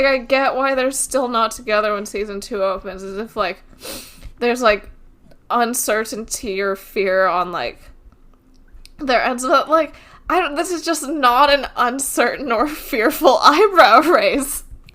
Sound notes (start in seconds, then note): none